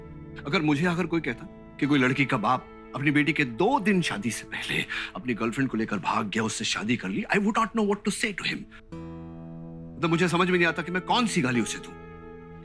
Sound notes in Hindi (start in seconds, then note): none